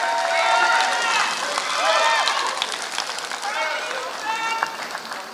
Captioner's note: applause